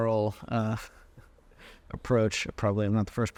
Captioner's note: chuckling